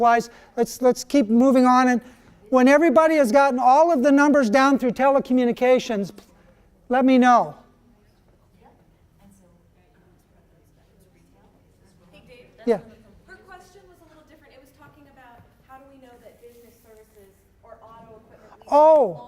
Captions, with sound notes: Let's keep moving on and when everybody has gotten all of the numbers down through telecommunications, let me know. - [Voiceover] So, you said it's better to retail? - [Voiceover] Hey Dave, her question was a little different, it was talking about how do we know that business services or auto--